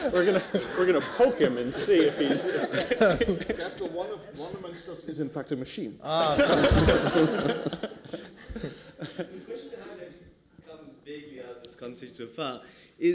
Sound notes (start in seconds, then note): 6.1 laughter